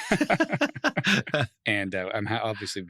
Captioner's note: laughs